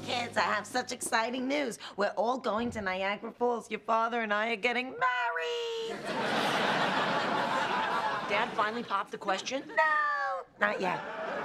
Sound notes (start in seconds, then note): 5.9 laughter